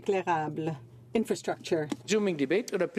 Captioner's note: speaking French